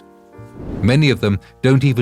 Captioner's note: air whooshing